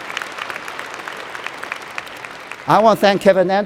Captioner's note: applause